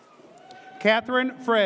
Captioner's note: audience cheers